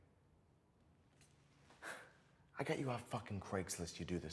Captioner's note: sighs